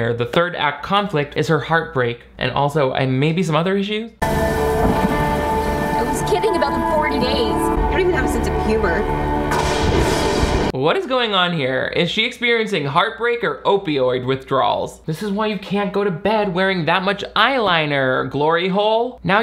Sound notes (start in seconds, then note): 4.2 tender music; 4.2 thunder crashing; 9.5 thunder booms